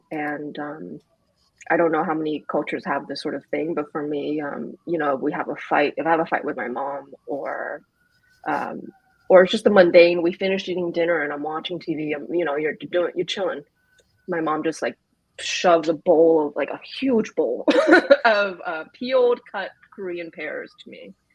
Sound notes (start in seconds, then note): 17.7 laughs